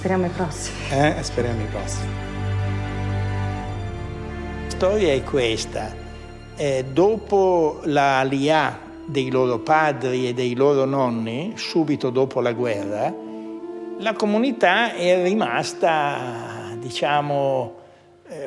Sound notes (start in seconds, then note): 0.1 speaks in foreign language; 2.5 gentle music continues; 5.1 speaks in foreign language